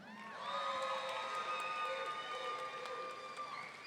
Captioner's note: audience cheering